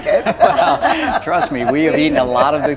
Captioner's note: all laughing